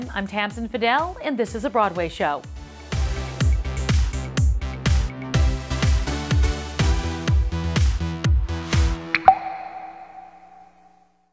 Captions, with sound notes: I'm Tamsen Fadal, and this is "The Broadway Show." (upbeat music) (water droplet ripples)